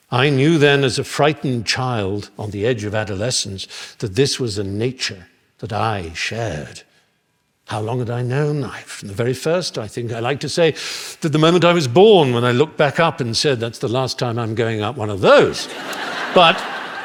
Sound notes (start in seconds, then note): 15.6 laughter